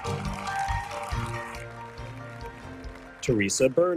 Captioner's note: audience cheers; audience applauding